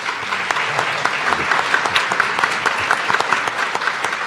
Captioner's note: audience applauding